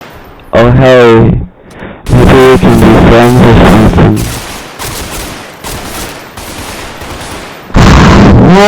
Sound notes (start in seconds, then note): 4.5 friendly gunfire